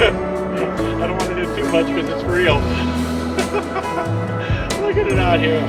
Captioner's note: nervous laughter